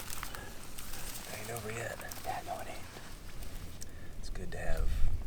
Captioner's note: faintly speaking